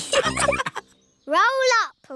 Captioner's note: all laughing